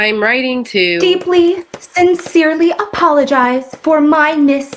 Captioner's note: typing sounds